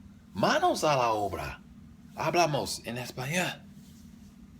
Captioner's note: spanish